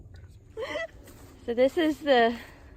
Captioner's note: footsteps